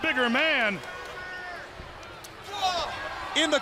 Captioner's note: crowd cheering